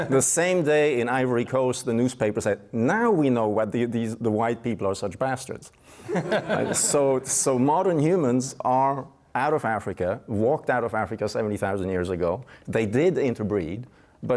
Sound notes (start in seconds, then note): 6.1 laughing